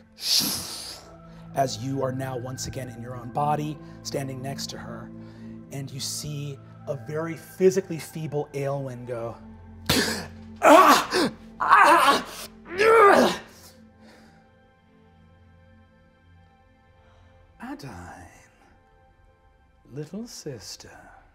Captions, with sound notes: (whooshing) as you are now once again in your own body, standing next to her, and you see a very physically feeble Aelwyn go, "Ah! (groaning) Ah! Ah! Adaine. Little sister."